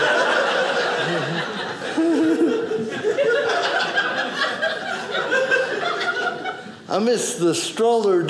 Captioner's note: audience laughing